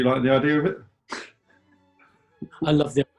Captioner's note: chuckles